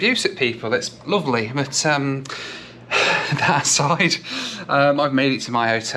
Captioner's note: sighs